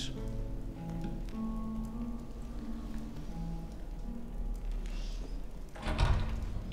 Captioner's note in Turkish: Ateş çıtırtı sesi; Kapı açılma sesi; Kapı gıcırdama sesi